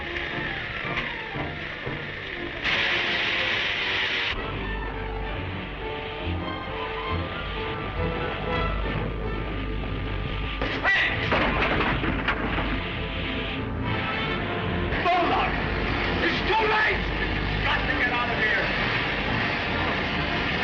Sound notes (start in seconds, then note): 0.0 electricity buzzing; 4.6 motor humming; 15.2 crash; 20.1 dramatic music continues; 20.1 engines roaring